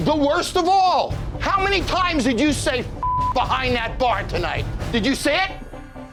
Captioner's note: beep